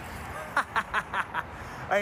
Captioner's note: laughs